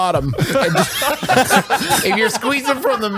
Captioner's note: laughs